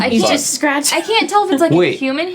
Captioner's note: chuckles